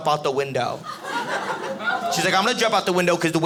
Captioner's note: audience laughing